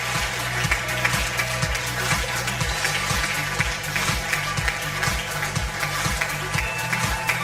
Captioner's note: audience applause; upbeat music